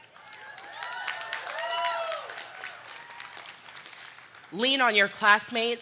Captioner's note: audience cheering